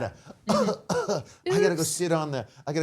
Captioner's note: coughing